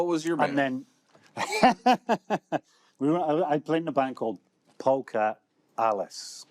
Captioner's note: laughs